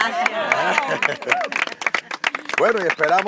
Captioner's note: applause